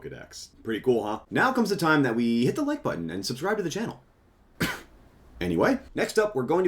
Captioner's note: cough